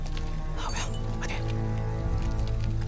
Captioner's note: soldier whispers in foreign language